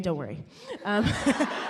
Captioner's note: audience laughs